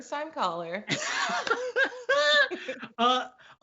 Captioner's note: laughs